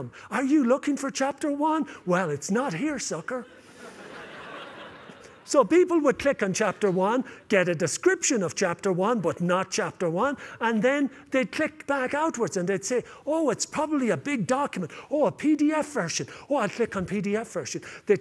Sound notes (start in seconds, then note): 3.5 laughter